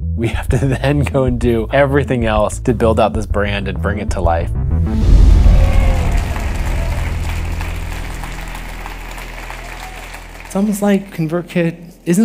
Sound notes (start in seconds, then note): 5.4 audience applauding